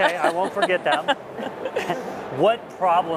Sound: laughter

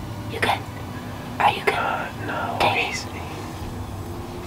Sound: whispering

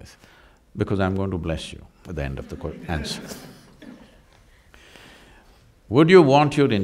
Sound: laughter

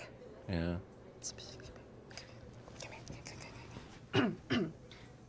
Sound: whispering; clears throat

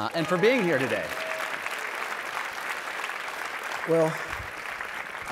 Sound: audience applauding

